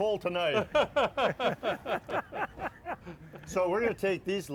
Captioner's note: laughter